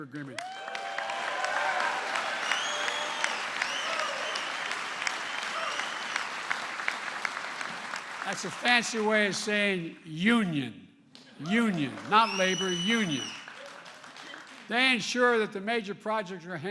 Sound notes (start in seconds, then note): 5.2 applause